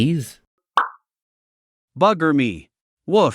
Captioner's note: pop